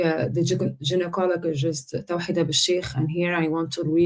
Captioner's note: speaking foreign language